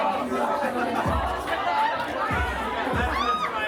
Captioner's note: crowd chattering